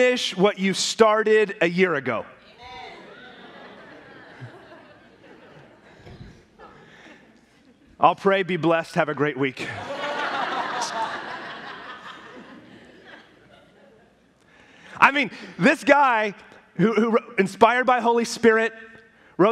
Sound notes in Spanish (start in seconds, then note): 6.8 riendo; 9.6 la congregación se ríe